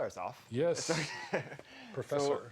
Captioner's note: chuckles